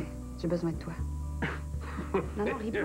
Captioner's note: Il rigole